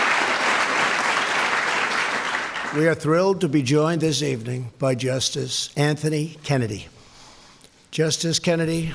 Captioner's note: applause